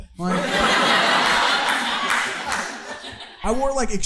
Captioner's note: audience laughing